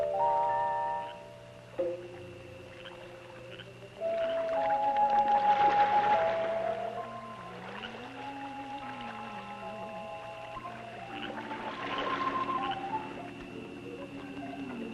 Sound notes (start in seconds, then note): 0.3 stirring music; 5.2 water splashing; 9.4 stirring music